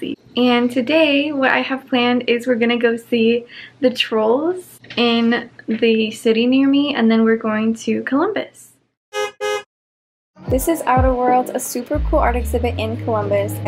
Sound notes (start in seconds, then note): 9.1 car beep beep